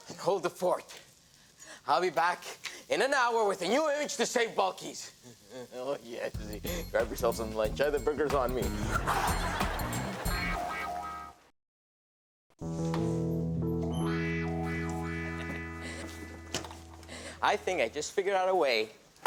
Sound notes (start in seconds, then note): 5.6 laughing; 9.1 upbeat music; 13.9 door squeaks open; 15.2 laughing